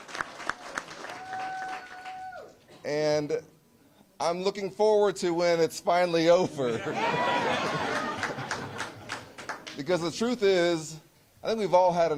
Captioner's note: applause